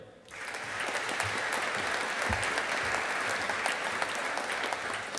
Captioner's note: audience applauding